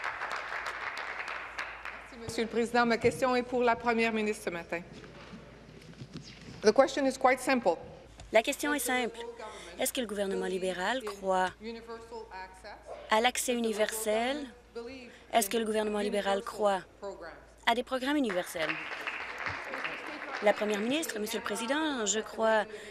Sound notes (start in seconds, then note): 2.7 applause; 4.0 speaking in French; 21.7 applause